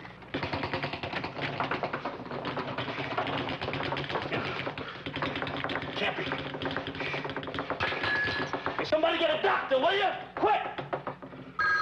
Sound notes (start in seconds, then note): 7.8 glass clanging